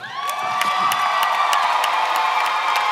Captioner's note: applause